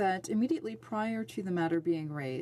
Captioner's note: speaking French